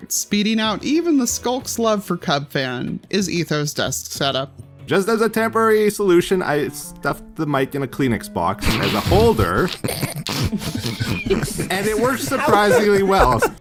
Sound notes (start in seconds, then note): 8.6 crowd snorts; 11.7 crowd stifles laughter